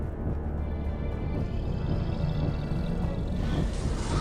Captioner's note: dramatic music; dinosaur growling; dramatic music